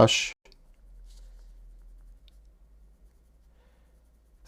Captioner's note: silence